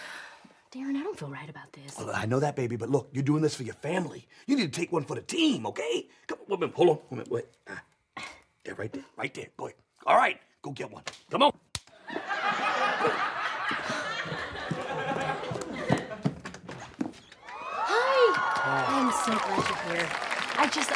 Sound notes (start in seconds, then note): 11.0 smack; 12.0 audience laughs; 17.4 audience cheers